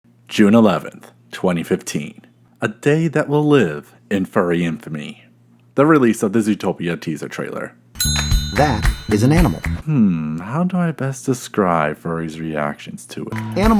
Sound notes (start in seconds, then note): 7.9 ding